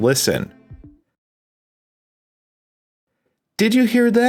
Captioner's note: audible silence